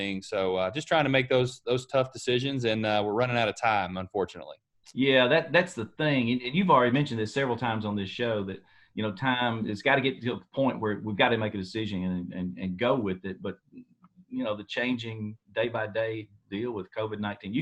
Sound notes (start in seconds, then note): none